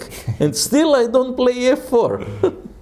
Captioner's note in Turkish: Gülüşmeler